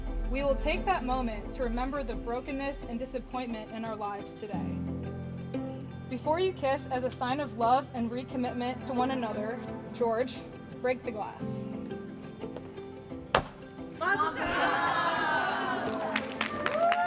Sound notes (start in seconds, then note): 13.3 crack; 16.3 cheers and applause